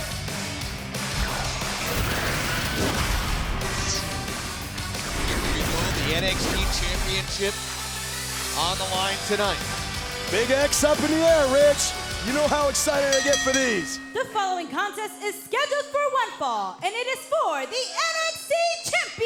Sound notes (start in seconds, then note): 12.9 bell ringing